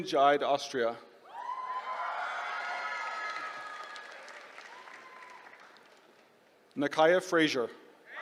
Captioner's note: applause; applause